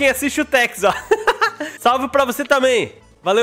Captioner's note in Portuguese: risos